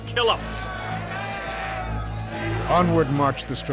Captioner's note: strikers shouting